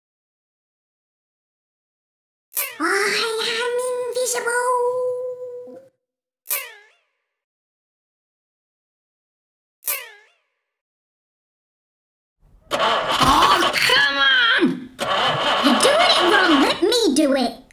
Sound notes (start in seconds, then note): 2.6 quiet squeak; 2.9 whispering; 6.3 quiet squeak; 9.6 quiet squeak; 12.6 engine won't start noise